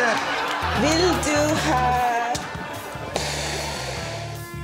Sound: speaking Swedish

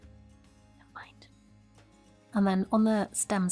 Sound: whispers

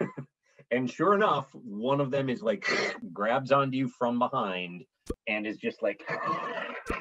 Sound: scrabbles

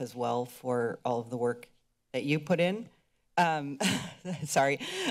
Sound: laughter

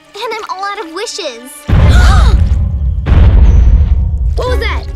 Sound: banging

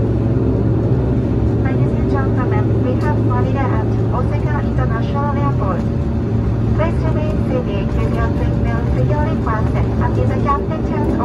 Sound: the same in-flight announcement is being broadcast in English

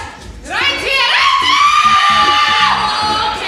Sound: screaming

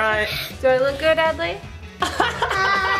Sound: laughs

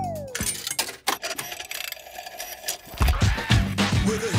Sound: clicks, whirring; hip hop music plays

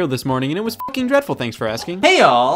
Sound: beep

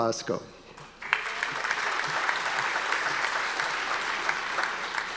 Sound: audience applause

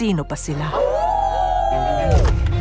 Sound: all howl

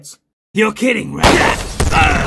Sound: bang; death noise

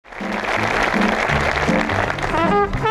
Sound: audience clapping

